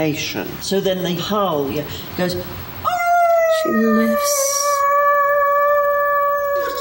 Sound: she howls

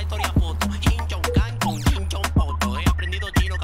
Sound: imitating chinese

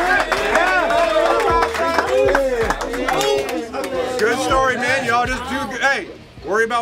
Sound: cheering

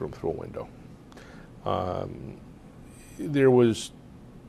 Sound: pauses for 3 seconds

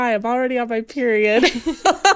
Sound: laughing

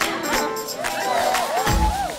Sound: laughing; cheering

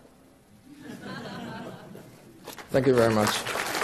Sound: audience laughing

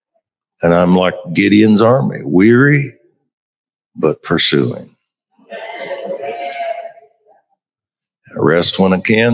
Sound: crowd shouting

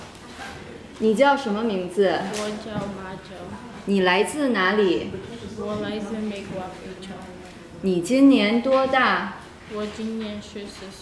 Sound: student and teacher having a conversation in Mandarin

